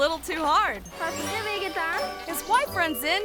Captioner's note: person speaks in foreign language